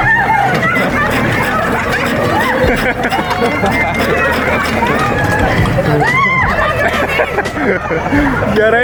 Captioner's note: everyone laughs